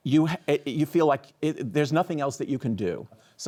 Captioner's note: chuckles